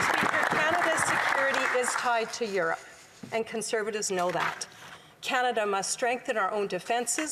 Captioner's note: applause